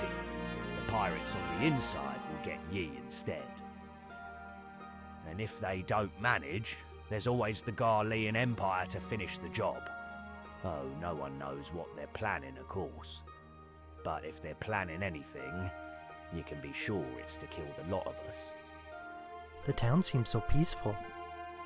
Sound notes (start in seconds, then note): none